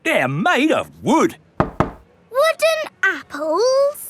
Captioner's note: knocks